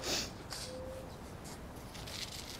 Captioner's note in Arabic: قعقعة البذور